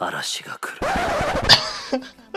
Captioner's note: record scratch